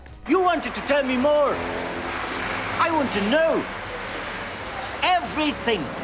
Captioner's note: shouting